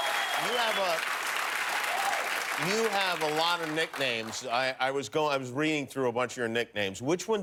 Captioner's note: cheers and applause